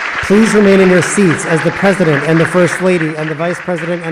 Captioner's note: applause